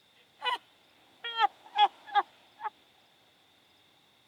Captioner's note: Alicia sobbing